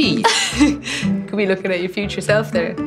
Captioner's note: laughing